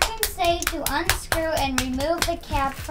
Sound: clapping

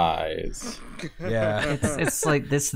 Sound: laughter

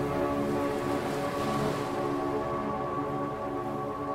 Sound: waves crash; dramatic music builds

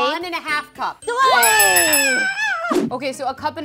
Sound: screams

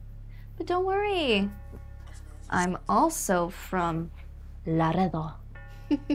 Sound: speaks foreign language

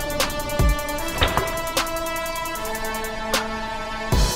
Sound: dramatic music continues; bolt thuds; dramatic music continues

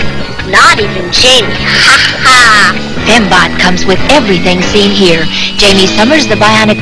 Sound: evil laughter

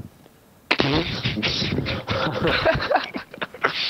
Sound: laughter

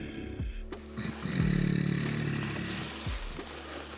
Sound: hh mmm mmm

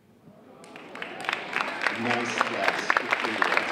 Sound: audience applauding

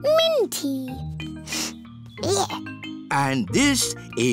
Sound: sniffs

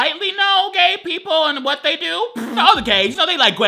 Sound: laughs

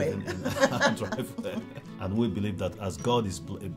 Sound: laughs

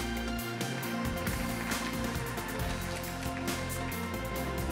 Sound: audience clapping

